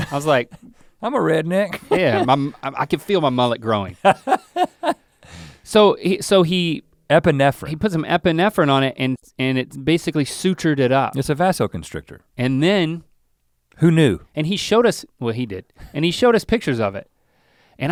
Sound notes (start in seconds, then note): 4.0 Rhett chuckles